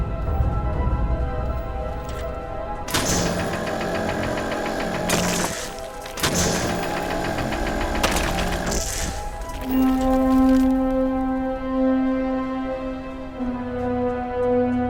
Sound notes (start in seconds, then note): 5.8 laser whirring; 10.8 rock crumbling